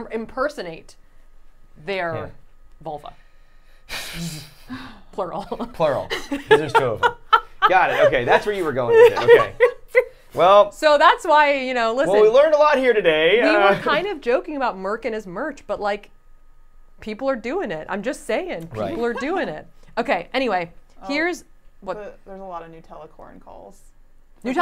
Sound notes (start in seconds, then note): 3.3 exhaling sharply; 5.2 laughing